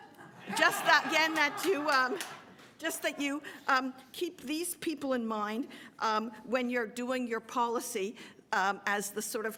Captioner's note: laughter